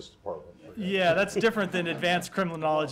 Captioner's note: laughter